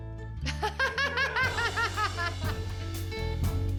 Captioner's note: laughs